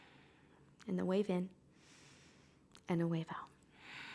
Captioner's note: inhaling; exhaling; inhaling; exhaling